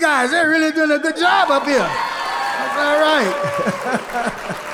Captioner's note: audience cheering; laughs